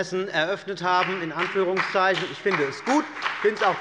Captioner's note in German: Beifall bei dem BÜNDNIS 90/DIE GRÜNEN und der CDU